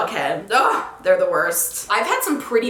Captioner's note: groans